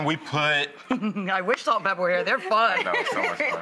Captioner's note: laughs